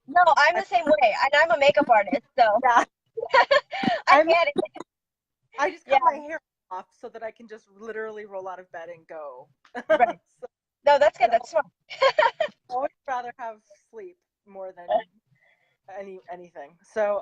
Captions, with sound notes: No, I'm the same way, and I'm a makeup artist. (laughing) I get it. - I just got my hair cut off so that I can just literally roll out of bed and go. - Right. No, that's good, that's smart. (laughing) - I would rather have sleep more than anything.